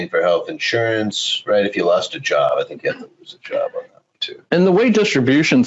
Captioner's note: murmurs